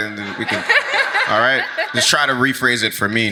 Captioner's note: audience laughs